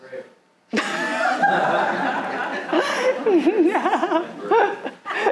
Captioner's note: audience laughing